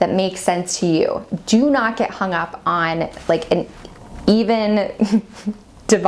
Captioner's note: laughs